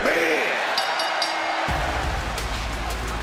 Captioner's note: bell rings